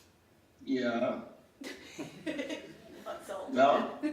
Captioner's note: laughing